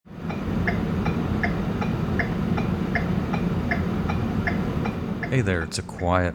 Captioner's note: regular clicking sound of turn signal indicator inside car